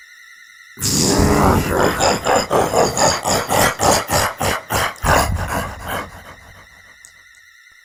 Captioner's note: demonic laughter